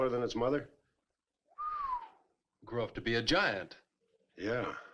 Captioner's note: whistles